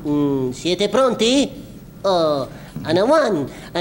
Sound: speaks in italian

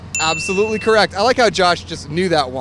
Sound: bell dinging

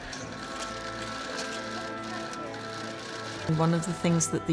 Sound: cameras clicking

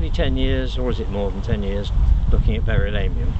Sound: wind, outdoor sounds, muffled talking and humming, grass crunching

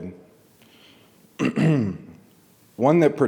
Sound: clears throat

